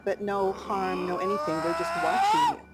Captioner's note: Bigfoot screaming